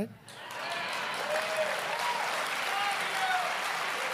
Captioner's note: applause